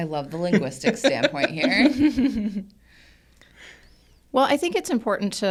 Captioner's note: everybody laughs